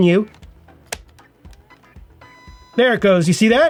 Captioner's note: flash clicks